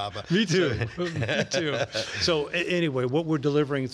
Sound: both laugh

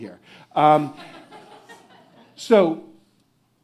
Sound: audience chucking

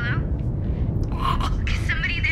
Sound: strained grunting

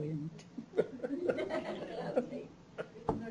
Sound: laughter

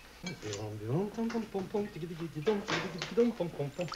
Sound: humming

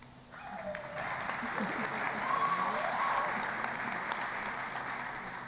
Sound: applause

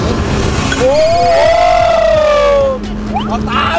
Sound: engine rumbling; cheering

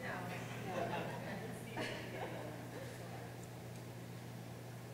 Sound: audience laughing

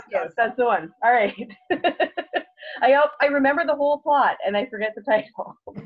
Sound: laughs

